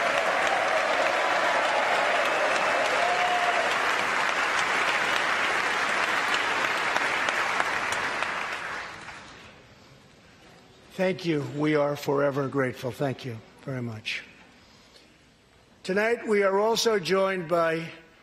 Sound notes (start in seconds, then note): 0.0 applause; 3.5 cheers